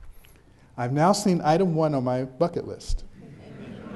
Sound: background chuckles

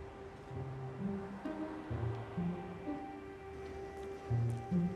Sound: urban noises

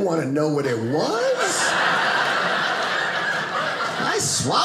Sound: audience laughing

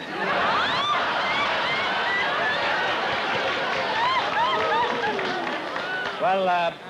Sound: laughter

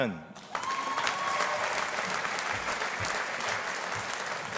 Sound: audience applauding

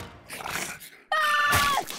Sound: screaming

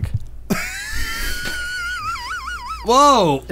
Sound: wheezing

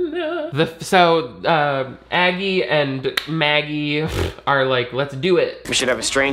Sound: laughs

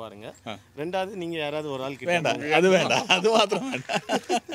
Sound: laughs

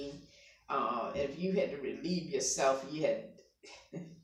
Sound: laughing

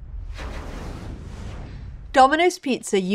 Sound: whooshing

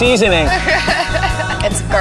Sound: laughing

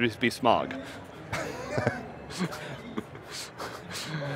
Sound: laughter

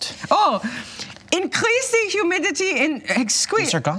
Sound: imitating German accent

